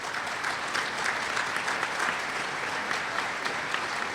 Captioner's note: applause